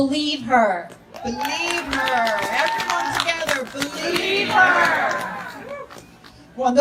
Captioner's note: audience repeats